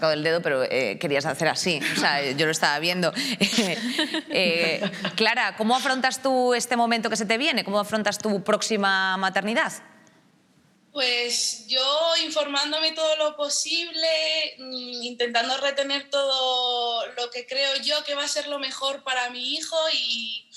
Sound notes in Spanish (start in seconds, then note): 3.4 Risas